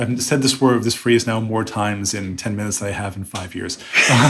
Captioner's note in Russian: смех